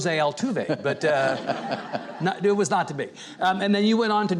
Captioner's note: audience and chuckling